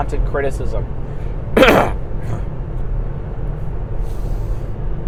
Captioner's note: coughs